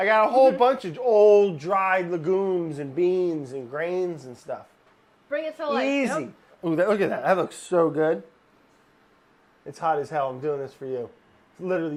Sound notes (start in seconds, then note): none